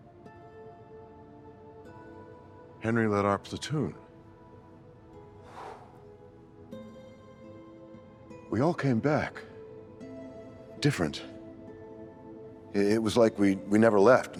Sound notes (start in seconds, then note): 0.1 gentle music; 5.4 sighs